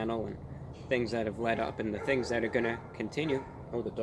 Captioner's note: dogs bark in background